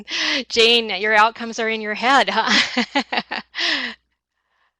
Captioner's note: laughs